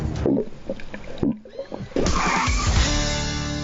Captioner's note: fart noise